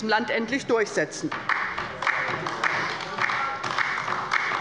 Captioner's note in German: Beifall bei der LINKEN